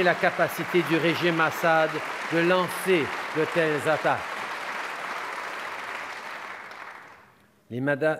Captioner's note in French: Applaudissements